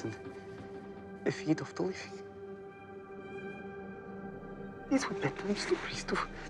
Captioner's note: Teplov speaking in foreign language